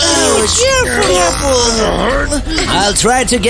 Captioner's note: grunting